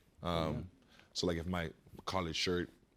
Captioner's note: none